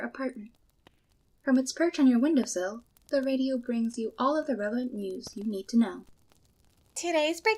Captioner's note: sound of Fire Crackling outside